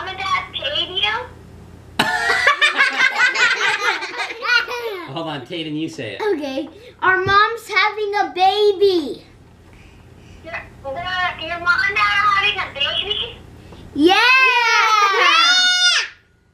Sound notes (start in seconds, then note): 2.0 laughs